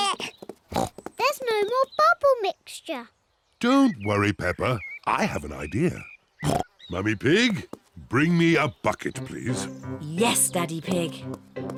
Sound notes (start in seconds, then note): 0.7 oinks; 6.4 oinks